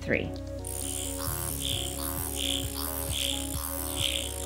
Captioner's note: machine vibrating